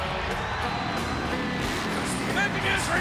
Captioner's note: engine revs